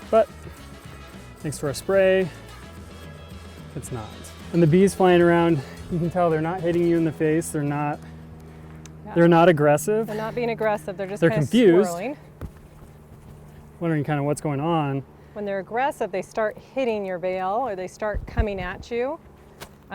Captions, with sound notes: but thanks to our spray, it's not. And the bees flying around, (plane rumbling) you can tell they're not hitting you in the face, they're not... - Yeah. - They're not aggressive. - They're not being aggressive, they're just kinda swirling. - They're confused, wondering kind of what's going on. - When they're aggressive, they start hitting your veil, or they start coming at you,